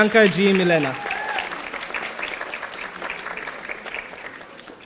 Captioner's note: audience applauding